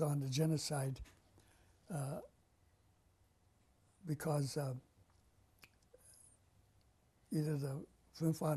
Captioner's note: pauses for 3 seconds